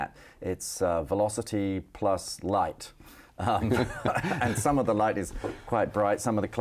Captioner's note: both laughing